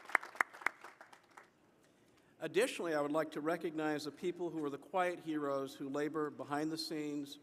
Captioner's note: applause